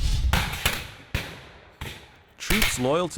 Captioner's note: gunfire